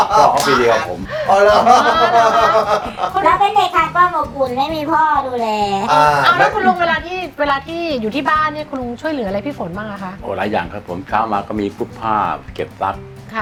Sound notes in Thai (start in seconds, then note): 0.0 หัวเราะ